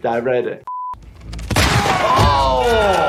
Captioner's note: beep; gun shoots